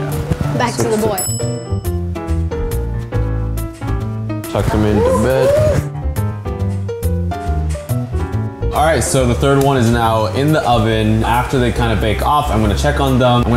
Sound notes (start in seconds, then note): 1.1 bell dings